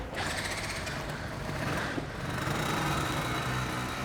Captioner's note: engine starts; motorcycle running